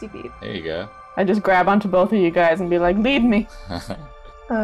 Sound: laughter

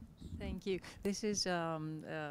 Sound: voiceover

